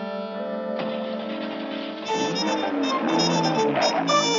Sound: car starting

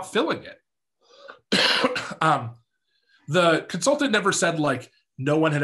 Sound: coughs

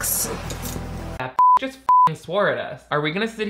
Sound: beep

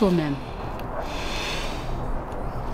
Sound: sighs

